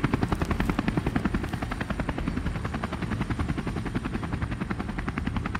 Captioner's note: helicopter continues whirring